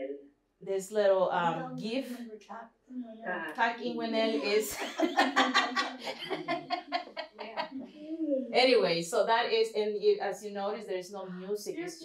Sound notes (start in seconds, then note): 4.6 laughter